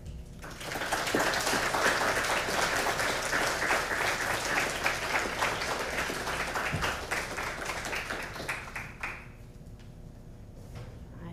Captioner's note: applause